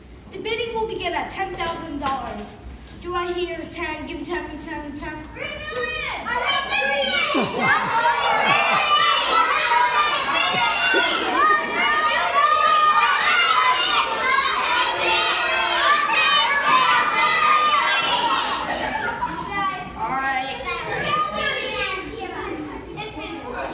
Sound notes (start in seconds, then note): 8.0 lots of kids shouting numbers; 10.0 continued yelling from audience members; 16.9 yelling starts quieting down; 21.6 yelling quiets down